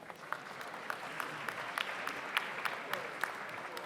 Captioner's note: audience applauds